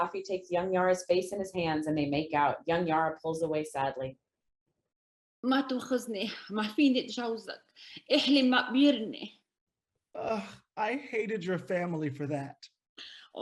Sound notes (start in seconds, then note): 5.0 speaks in foreign language